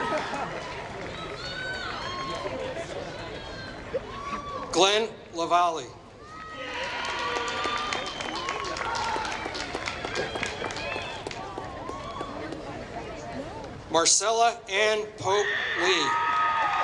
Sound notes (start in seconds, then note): 6.6 applause; 16.3 applause